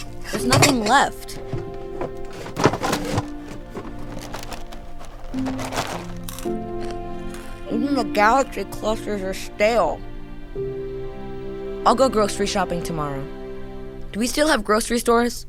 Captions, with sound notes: There's nothing left. [ Chewing loudly ] Even the Galaxy Clusters are stale. I'll go grocery shopping tomorrow. Do we still have grocery stores?